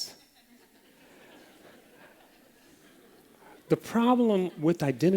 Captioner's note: laughter